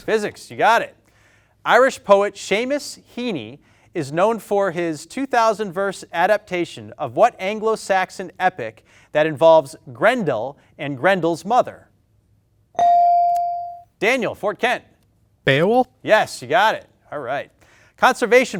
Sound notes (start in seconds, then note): 12.7 bell dings